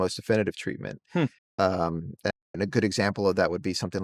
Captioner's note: hums